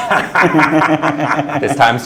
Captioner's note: laughing